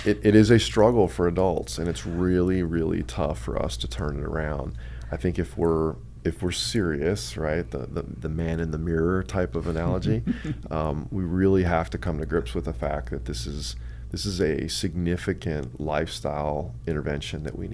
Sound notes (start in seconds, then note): 9.7 laughs